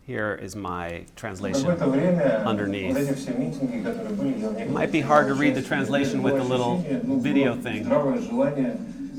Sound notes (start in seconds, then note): 2.0 speaking russian; 8.1 speaking russian